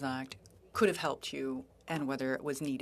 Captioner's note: speaking French